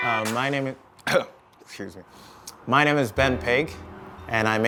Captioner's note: coughing